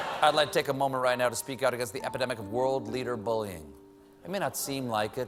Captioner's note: cheers and applause